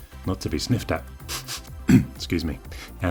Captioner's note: sniffing noise